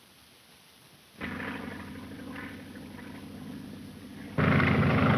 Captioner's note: engine droning